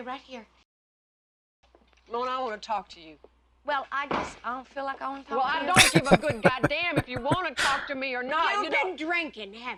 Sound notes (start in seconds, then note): 5.8 laughing